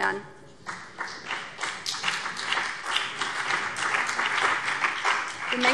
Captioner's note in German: Beifall BÜNDNIS 90/DIE GRÜNEN und vereinzelt CDU